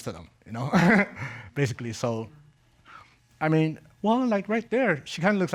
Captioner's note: chuckles